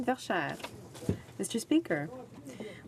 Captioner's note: speaking in french